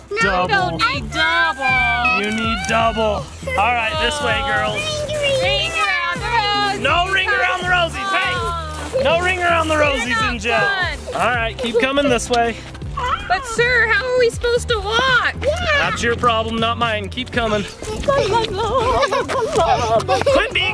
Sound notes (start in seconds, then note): 1.6 whines; 17.5 laughing; 18.0 woman singing